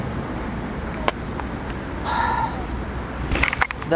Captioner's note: exhale